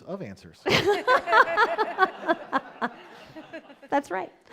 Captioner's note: audience laughing